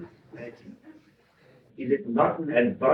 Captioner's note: laughter